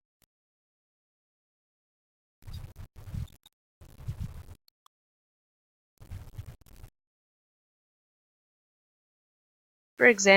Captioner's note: silence